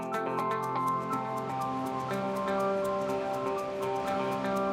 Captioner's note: upbeat music; water rushes